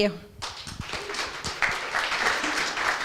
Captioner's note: applause